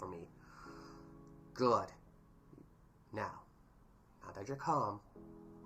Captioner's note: breathes